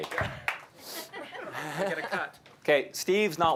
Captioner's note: applause